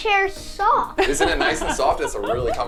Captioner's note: laughs